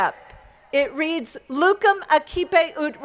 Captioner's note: speaking in foreign language